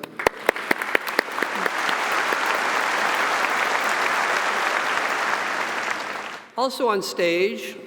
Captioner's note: audience applauding